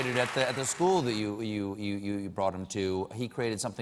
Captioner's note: applause